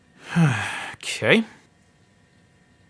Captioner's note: sighing